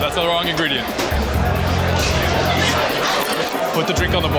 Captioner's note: chatter